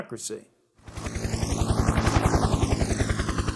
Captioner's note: helicopter sounds